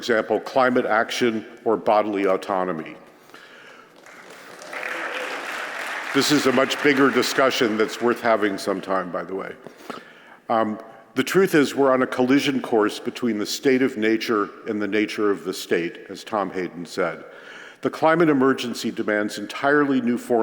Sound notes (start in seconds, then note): 3.9 applause